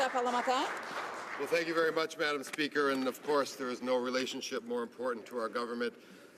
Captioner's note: some Applause